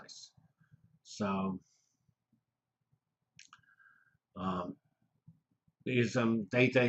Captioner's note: pause